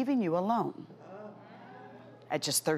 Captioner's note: audience groaning